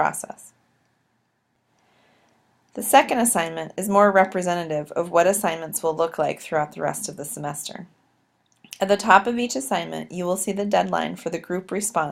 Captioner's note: click